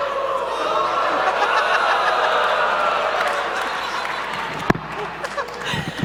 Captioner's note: laughter and cheering